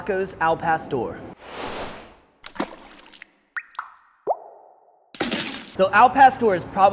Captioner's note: whoosh; splash; drip